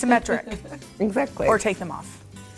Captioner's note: laughing